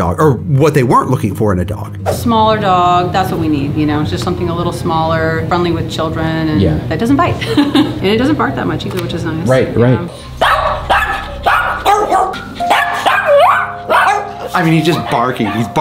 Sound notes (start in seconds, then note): 7.4 laughs; 10.3 Pugsly barks